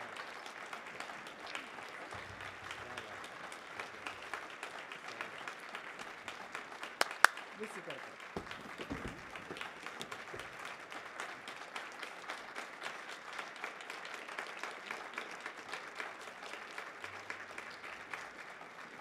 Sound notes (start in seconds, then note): 1.2 applause